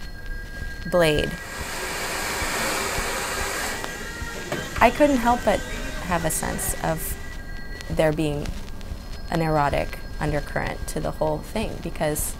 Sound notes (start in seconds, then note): 1.1 hair dryer sounds